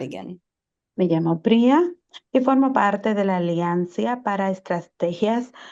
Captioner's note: interpreter speaking Spanish